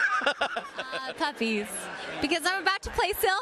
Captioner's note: laughs